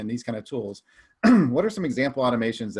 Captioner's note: clears throat